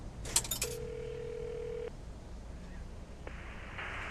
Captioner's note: phone ringing